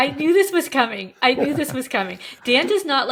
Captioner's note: chuckling